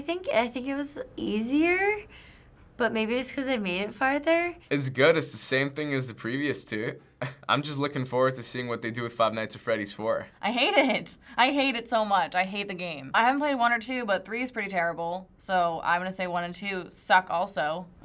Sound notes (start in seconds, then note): none